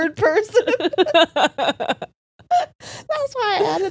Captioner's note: all laughing